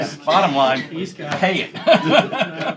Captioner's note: laughter